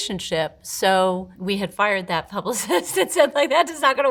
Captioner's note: chuckles